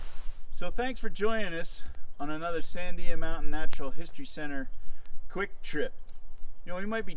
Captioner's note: spinning chain squeaking